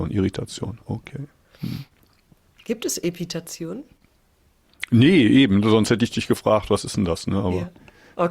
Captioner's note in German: schnauben